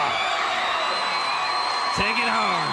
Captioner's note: crowd cheering